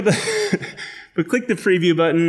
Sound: laughs

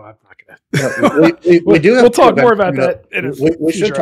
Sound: laughing

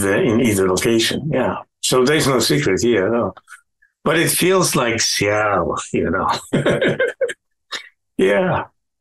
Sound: laughing

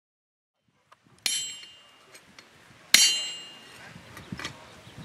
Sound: hammer falling

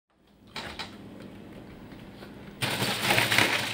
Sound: door clicks; ice rustling

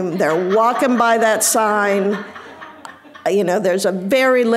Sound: audience laughing

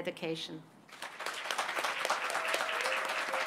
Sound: applause

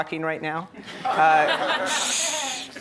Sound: audience laughing

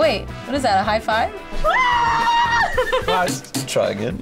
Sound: laughs

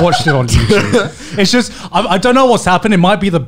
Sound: laughing loudly

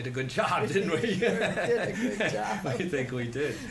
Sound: laughs

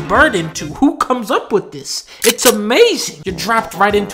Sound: shotgun pump

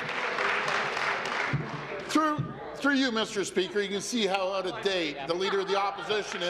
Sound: applause

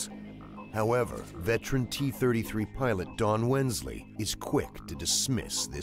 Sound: voiceover

